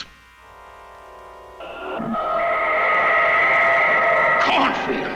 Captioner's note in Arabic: هدير محرك الصاروخ